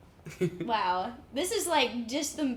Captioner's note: chuckles